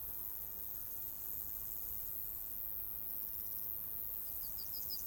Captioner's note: insects chirping